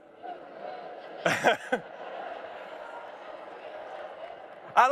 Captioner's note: chuckles